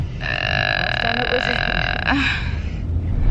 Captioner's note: long groan